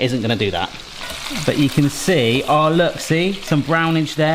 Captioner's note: chicken sizzling